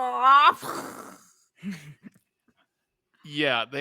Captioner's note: imitates trolls exploding